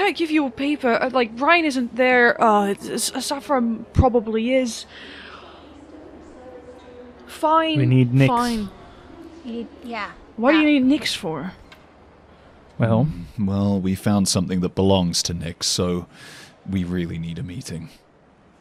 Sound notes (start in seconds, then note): 5.5 sighs